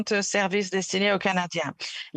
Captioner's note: speaking French